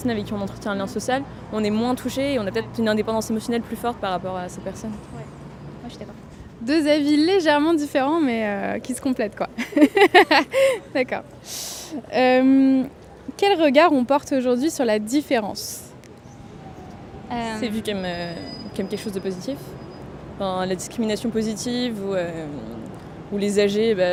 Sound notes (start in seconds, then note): 9.6 laughter